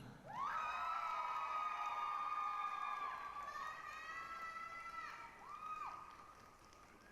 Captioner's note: applause, cheering